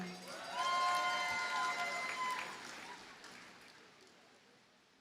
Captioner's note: audience cheers and applauds